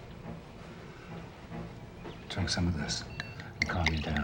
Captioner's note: bottle clinks